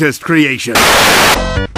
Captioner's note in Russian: белый шум